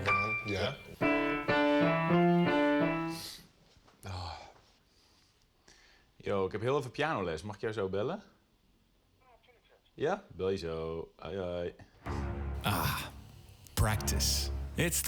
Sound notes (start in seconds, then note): 0.0 piano music; 4.1 speaking in foreign language